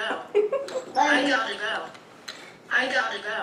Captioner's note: laughs